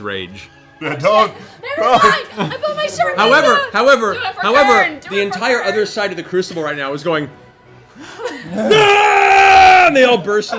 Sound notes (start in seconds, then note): 0.8 laughing; 8.0 gasps, cheers